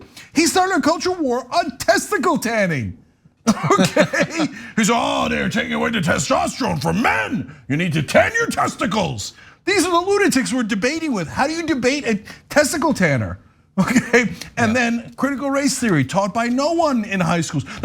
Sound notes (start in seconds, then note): 3.4 laugh; 13.8 laugh